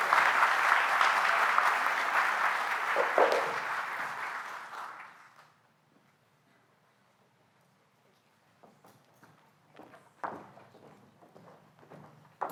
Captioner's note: applause